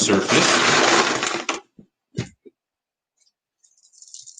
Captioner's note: bag rattles